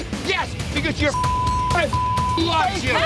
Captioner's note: beep; men arguing